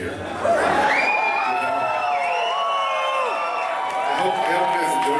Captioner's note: crowd cheers apprehensively